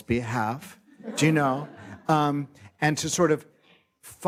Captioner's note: light laughter